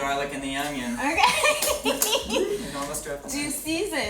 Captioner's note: laughs